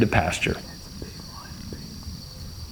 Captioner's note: whispering